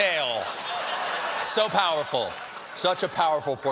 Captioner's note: laughter